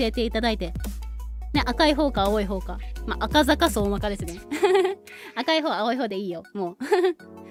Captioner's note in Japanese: 笑い